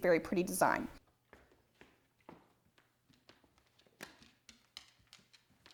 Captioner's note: footsteps shuffling